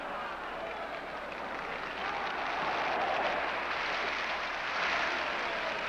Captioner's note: crowd cheers